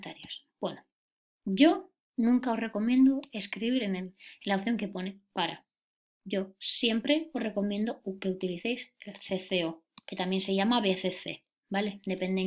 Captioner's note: CCO in Spanish